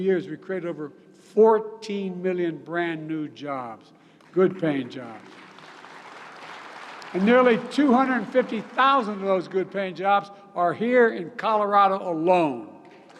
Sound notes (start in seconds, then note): 4.1 applause